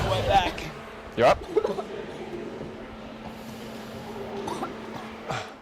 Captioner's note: cheerleader coughing